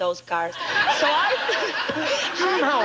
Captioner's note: audience laughing